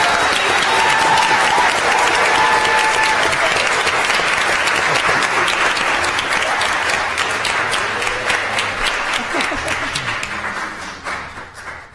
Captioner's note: applause